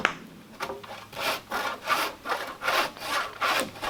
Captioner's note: sawing